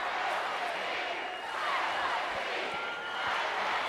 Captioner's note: crowd cheering